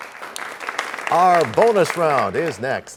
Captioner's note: applause